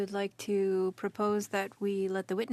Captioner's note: speaking French